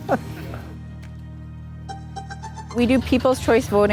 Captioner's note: laughs